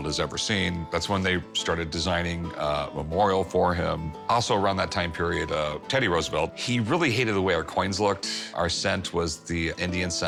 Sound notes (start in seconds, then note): none